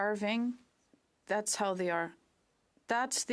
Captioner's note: speaking French